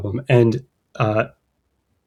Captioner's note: uh